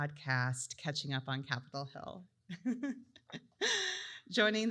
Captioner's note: laughs